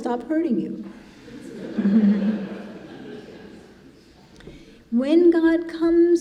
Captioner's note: congregation laughing